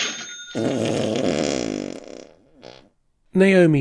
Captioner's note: long fart